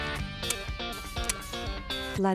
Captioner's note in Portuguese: Estalos